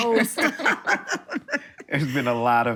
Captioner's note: laughter